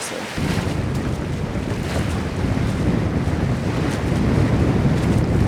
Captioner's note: wind blowing and water rushing